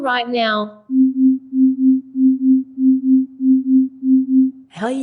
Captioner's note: beeping